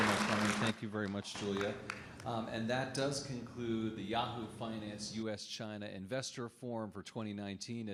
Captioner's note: applause